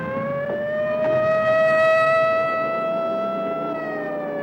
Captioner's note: dramatic music; sirens wailing